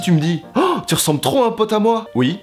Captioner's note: gasp